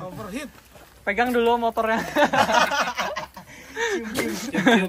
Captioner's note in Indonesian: Tertawa